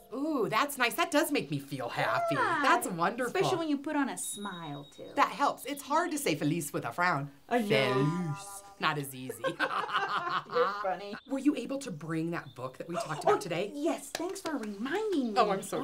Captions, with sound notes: - Ooh, that's nice. That does make me feel happy. - Yeah. That's wonderful. - Especially when you put on a smile too (triangle hit). - That helps. It's hard to say feliz with a frown. - Feliz. Not as easy. (ladies laugh together) - You're Funny. - Were you able to bring that book that we talked about today? - Oh, yes. Thanks reminding. Oh yeah.